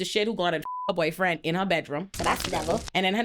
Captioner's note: beep